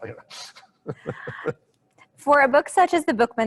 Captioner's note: he laughs